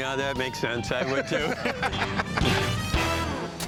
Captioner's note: laughter